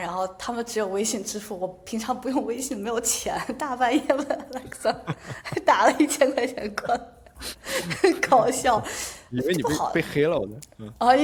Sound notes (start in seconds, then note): 7.4 laughter